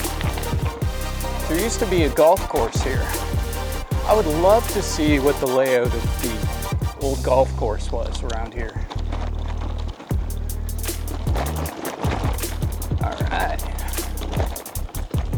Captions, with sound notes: There used to be a golf course here. I would love to see what the layout of the old golf course was around here. [rattling down trail] Alright!